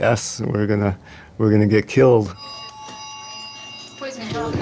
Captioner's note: phone ringing